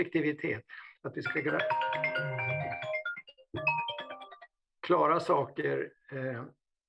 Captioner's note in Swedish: mobilljud